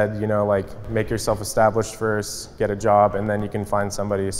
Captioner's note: none